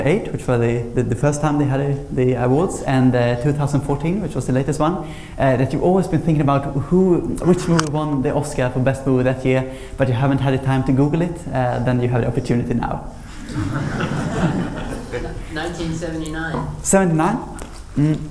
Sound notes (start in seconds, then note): 13.3 laughter